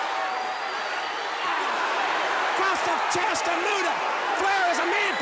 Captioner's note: crowd chatter